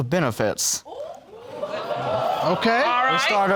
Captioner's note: audience exclaiming